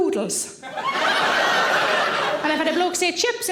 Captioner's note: audience laughing